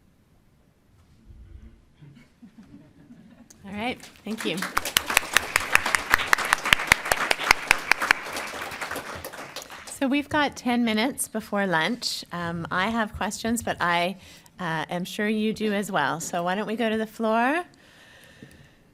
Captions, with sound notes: (audience laughs) - All right, thank you. (audience applauds) So we've got ten minutes before lunch. I have questions but I am sure you do as well. So why don't we go to the floor?